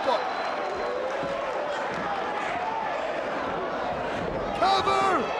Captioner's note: audience applauds and cheers